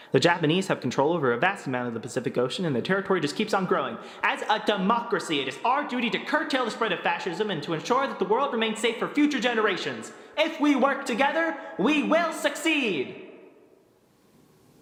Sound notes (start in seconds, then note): none